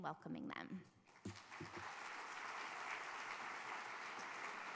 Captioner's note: audience applauds